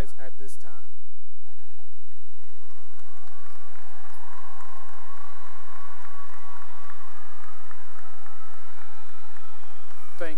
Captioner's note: cheering and applause